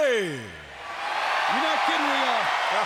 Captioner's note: crowd cheers